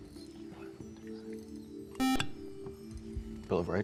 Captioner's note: beep